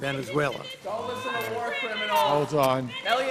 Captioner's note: spectators protesting